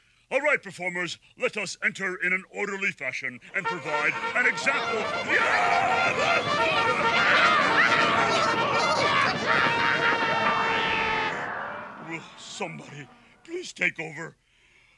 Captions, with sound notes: All right performers, let us enter in an orderly fashion, (lively horn music) and provide an example for-- (people clamoring) Will somebody please take over?